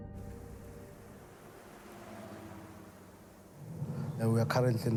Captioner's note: vehicles cruising